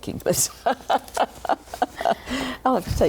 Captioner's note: laughter